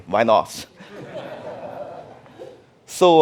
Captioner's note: audience laughing